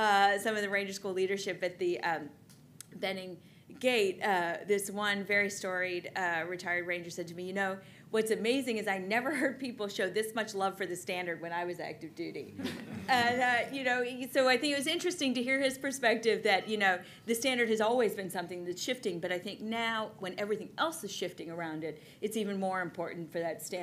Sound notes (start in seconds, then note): 12.6 laughter